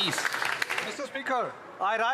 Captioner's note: some Applause